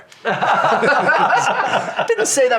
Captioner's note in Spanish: risas